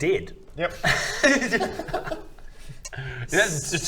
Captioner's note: unsympathetic laughter